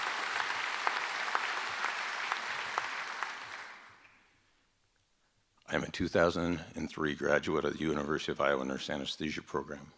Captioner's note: applause